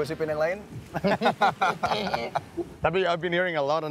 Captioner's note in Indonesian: Ketawa